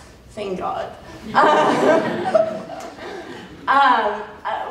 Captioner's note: laughter